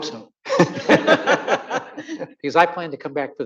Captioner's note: audience laughing